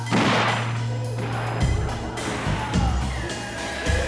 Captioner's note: gunshots ringing